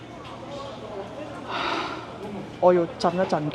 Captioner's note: sigh